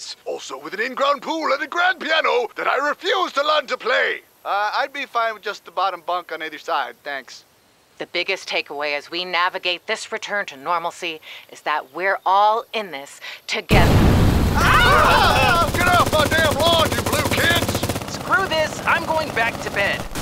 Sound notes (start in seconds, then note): 14.5 everyone yelling; 14.8 machine gun firing